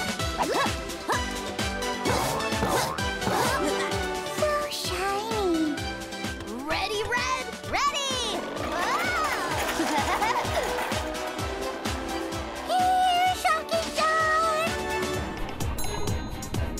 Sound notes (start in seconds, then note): 0.1 grunting; 9.2 laughing; 14.6 tense music